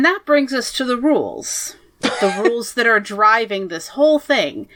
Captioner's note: laughs